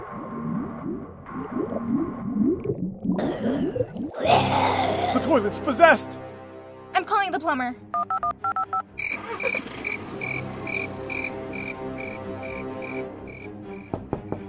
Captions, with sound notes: [growling] The toilet's possessed. I'm calling the plumber.